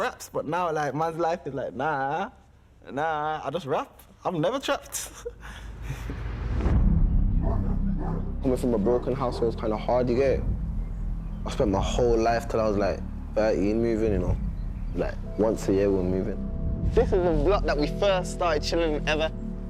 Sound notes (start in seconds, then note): 4.9 laughing; 7.4 dog barking